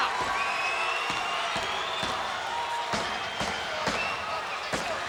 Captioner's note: crowd cheering; Cornett pounding